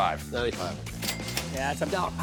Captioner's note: register dinging